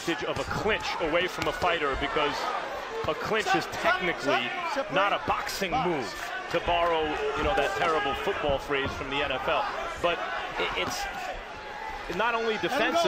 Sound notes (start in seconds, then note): none